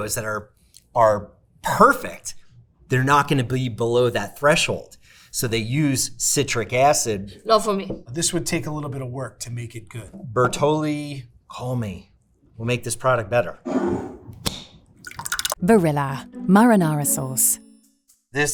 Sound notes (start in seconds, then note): 13.7 jar scraping; 15.0 sauce sloshing; 15.0 jar cap clacking